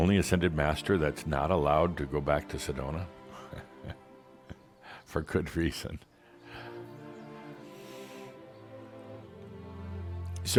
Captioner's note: Adamus chuckles